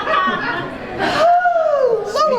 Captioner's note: group laughing; sighing